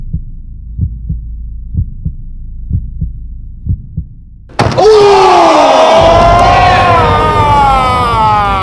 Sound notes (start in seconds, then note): 4.6 all groaning